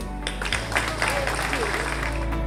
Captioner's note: applause